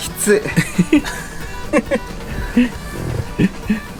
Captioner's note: sigh